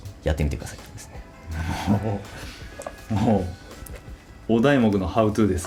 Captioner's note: laughs